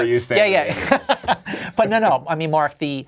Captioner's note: laughing